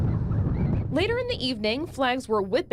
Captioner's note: wind